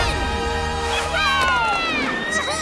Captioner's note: cheering